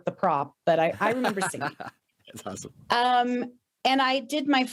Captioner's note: laughing